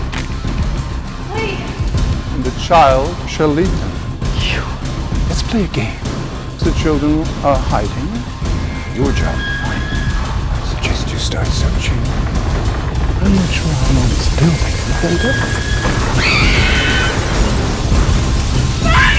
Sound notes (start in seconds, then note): 13.5 whispering; 16.3 screaming